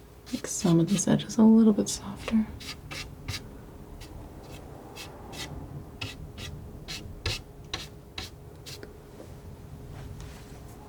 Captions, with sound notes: make some of these edges a little bit softer. [scratching]